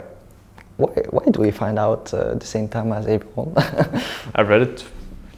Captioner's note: laughs